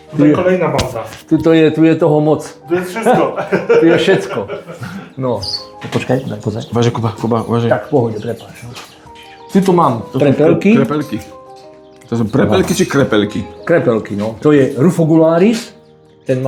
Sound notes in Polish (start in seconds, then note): 2.9 śmiech